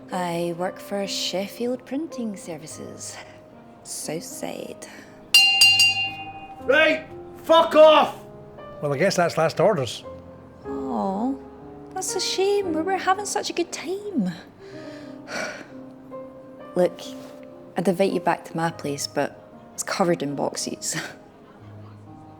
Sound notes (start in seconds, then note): 5.3 bell ringing; 15.2 sighing; 21.5 laughs